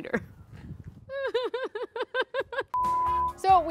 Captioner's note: sobs